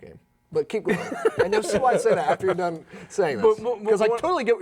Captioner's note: laughing